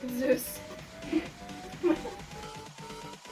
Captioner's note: laughs